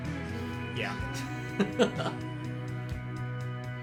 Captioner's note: laughing